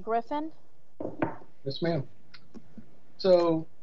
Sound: knocking

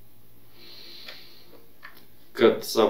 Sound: inhales

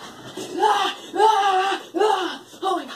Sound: screaming

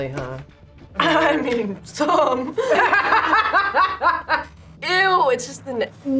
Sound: laughs

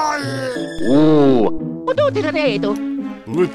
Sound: italian Gibberish

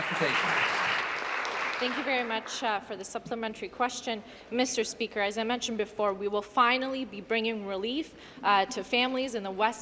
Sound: applause

